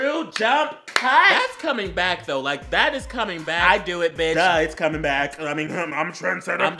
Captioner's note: clap; Mac noises